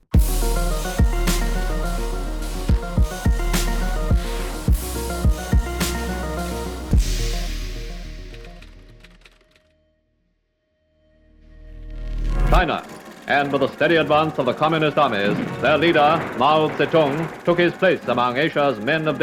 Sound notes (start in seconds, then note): 0.1 energetic music; 8.2 computer keyboard clattering; 11.6 dramatic music